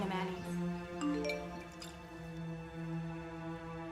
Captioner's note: phone beeps